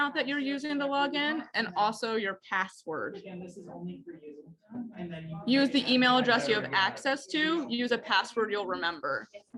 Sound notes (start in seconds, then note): 3.3 indistinct background chatter in the class